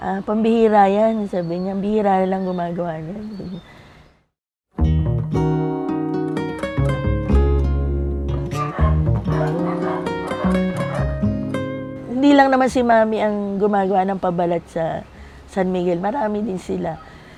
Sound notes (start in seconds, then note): 8.4 dogs barking